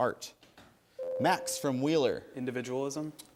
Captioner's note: ding